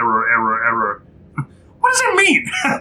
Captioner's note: chuckles